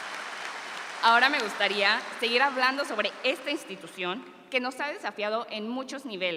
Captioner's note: continues speaking in Spanish